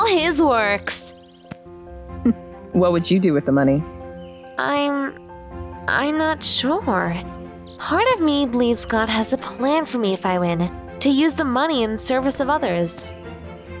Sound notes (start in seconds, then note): 2.2 slight chuckle